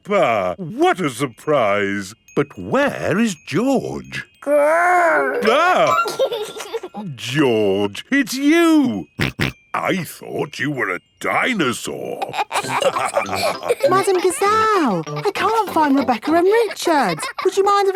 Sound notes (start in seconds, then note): 4.9 giggles; 6.1 exclaims; 9.2 snorting; 12.2 all laughing